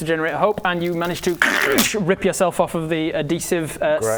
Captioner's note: krrsch